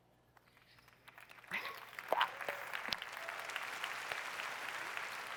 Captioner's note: applause